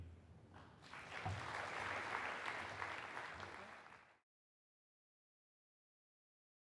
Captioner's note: clapping